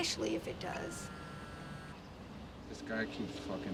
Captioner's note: phone vibrates